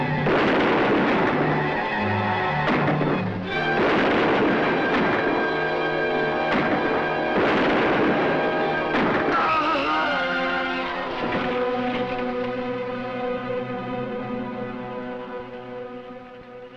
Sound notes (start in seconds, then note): 0.2 gunshots fire; 9.2 Barney moaning